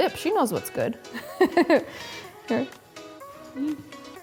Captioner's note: laughing